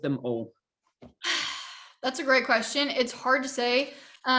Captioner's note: sighing